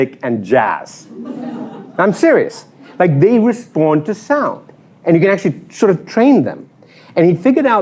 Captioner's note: laughter